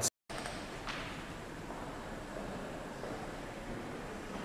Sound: distant footsteps

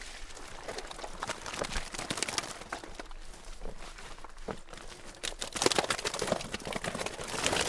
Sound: fish flopping

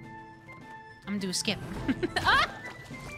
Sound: laugh

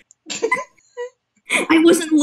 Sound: both do a small laugh; inhale; glitching slightly

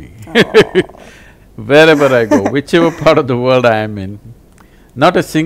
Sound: interviewer laughs; laughs

